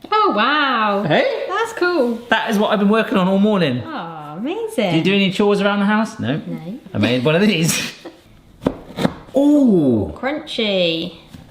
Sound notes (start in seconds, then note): 7.0 both laughing; 8.7 biscuit crunching; 8.7 knife tapping